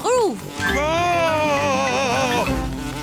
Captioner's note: screams